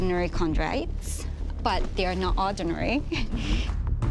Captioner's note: chuckles